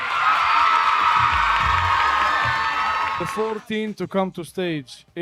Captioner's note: audience cheering